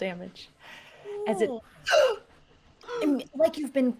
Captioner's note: gasps